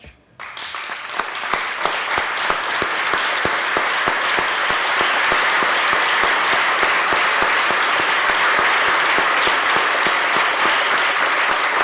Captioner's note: applause